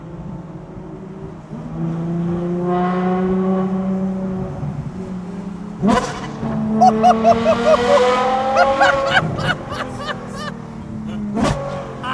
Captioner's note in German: gelächter